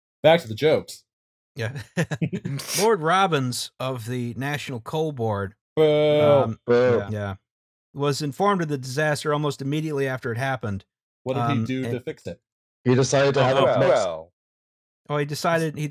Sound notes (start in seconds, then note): 1.7 bleak laughter